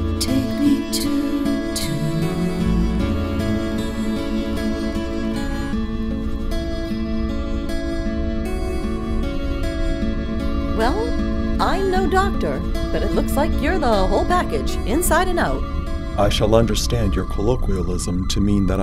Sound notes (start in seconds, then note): 6.0 medical scanner sounds; 15.9 deep masculine voice